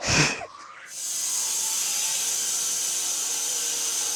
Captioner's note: saw whirring